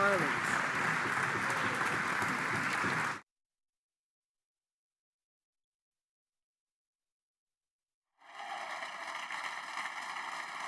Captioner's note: applause